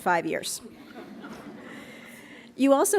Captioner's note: laughs